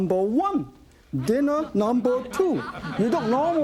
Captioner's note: audience laughing